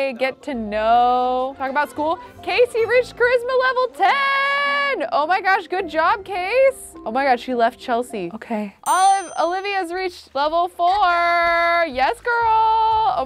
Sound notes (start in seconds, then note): none